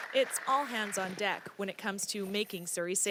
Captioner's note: applause